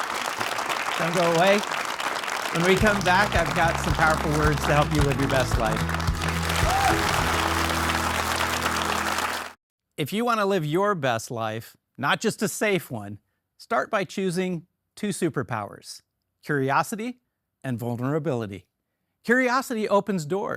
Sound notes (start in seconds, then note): 1.5 audience applauding; 7.3 audience applauding; 7.3 upbeat music